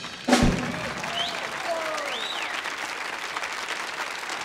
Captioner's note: audience applauding